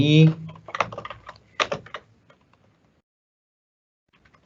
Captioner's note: keyboard clicking